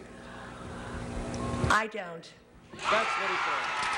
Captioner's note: cheers and applause